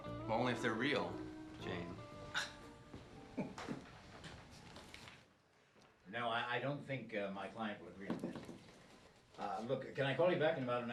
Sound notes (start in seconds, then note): 3.2 chuckles; 7.6 knocks on glass